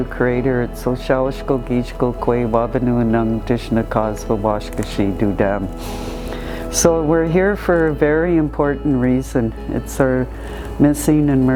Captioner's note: ojibwe language